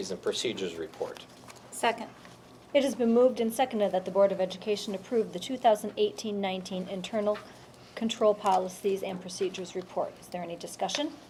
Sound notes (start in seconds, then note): none